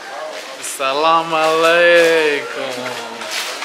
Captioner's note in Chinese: 阿拉伯语